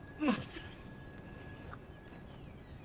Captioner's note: Clive grunting